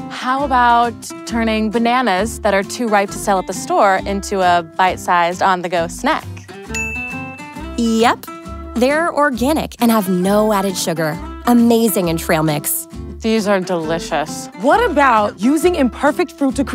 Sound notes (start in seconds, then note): 6.7 bell chimes